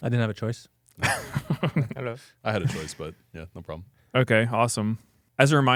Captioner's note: laughs